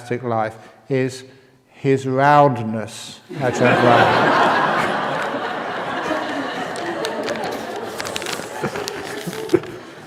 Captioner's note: laughter